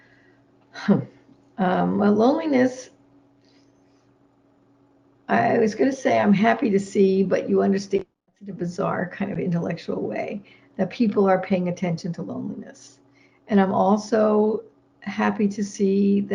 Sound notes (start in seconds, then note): none